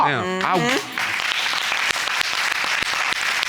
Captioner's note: applauding